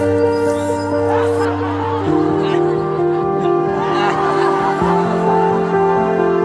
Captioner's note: laughing